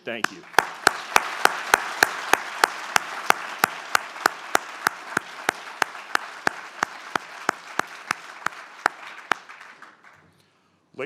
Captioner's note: applause